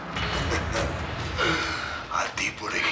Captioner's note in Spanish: Ríe